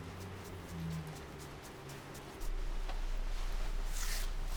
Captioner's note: distant traffic rumbling